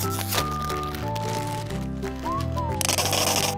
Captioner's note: bag open sound; food pouring sound; explosive diarrhea sound effect